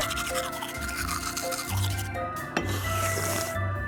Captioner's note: sipping; gurgling